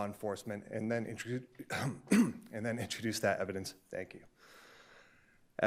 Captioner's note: clears throat